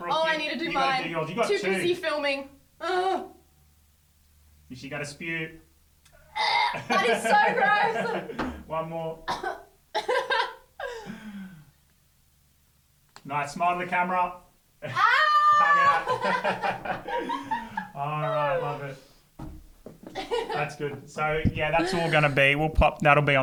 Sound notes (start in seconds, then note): 8.3 laughing; 9.3 coughing; 14.9 laughing